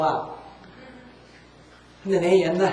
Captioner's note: audience Laughter